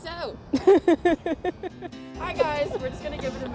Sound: laugh

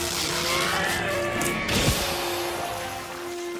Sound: screaming

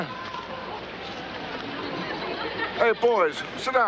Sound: audience laughter

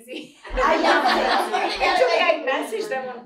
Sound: laughter

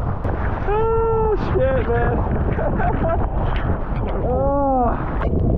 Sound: laughs

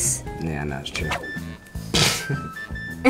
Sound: air whooshes; laughs

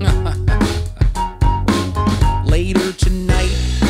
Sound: laughing

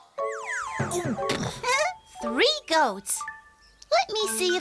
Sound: giggles

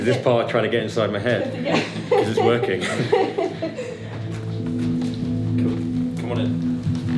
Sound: laughter

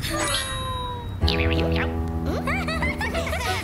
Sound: whispering; laughing

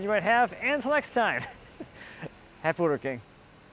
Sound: laughs

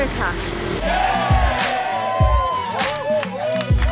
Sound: cheering

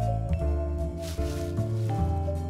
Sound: bushes rustling quietly

